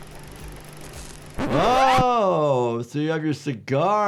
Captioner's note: tape squeals